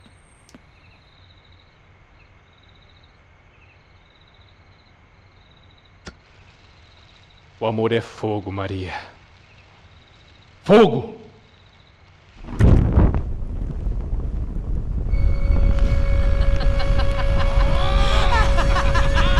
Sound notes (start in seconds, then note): 16.4 laughter